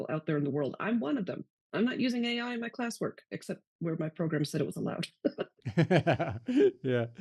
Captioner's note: both laugh